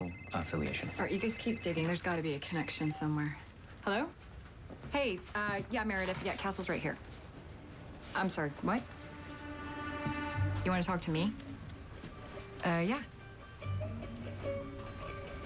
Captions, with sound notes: ALL RIGHT. YOU GUYS KEEP DIGGING. THERE'S GOTTA BE A CONNECTION SOMEWHERE. (beeps) HELLO. HEY. UH, YEAH, MEREDITH. YEAH, CASTLE'S RIGHT HERE. I'M SORRY. WHAT? YOU WANT TO TALK TO ME? UH, YEAH.